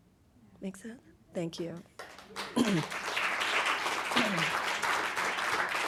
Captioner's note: audience applauding